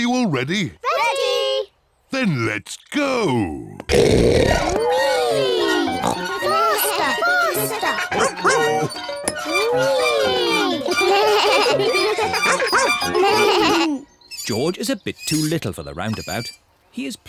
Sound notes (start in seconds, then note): 3.9 oinks; 12.1 all giggle